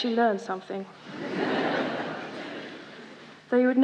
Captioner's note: laughter